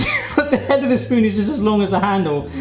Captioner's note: laughing